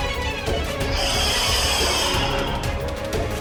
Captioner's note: hissing